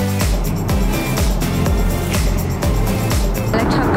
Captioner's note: engine roaring